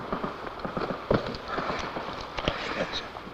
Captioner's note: footsteps